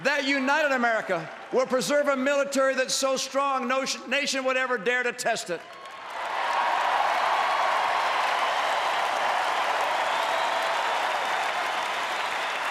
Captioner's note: applause